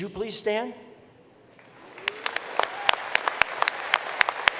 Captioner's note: applause